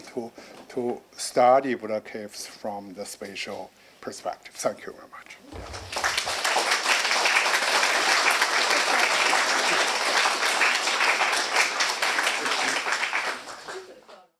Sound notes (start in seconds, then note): 5.5 audience applauding